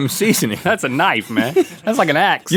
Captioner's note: laughs